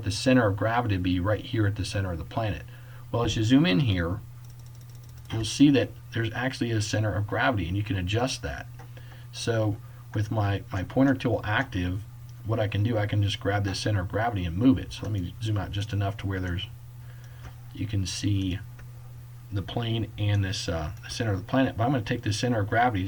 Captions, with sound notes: the center of gravity to be right here at the center of the planet. Well as you zoom in here, [Clicking] you will see that there is actually a center of gravity and you can adjust that. So with my my pointer tool active, what I can do I can just grab this center of gravity and move it so let me just zoom out just enough to where there is, you can see the plane and this uh center of the planet. Well I am going to take this center of gravity,